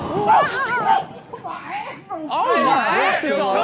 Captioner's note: screams